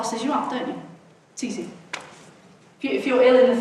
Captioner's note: hands smacking